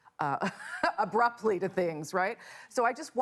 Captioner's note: laughter